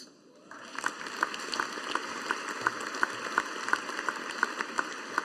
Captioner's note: audience applauding